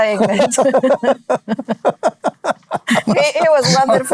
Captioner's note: laughing